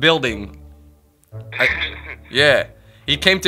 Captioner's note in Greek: γελάει